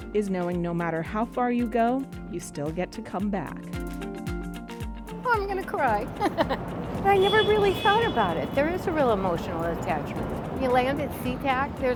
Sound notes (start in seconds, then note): 6.1 laughter